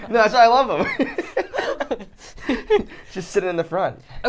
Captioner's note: laughs